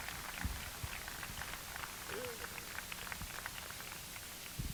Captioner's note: applause